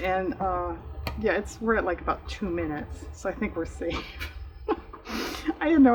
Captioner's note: laughs